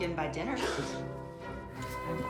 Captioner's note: laughing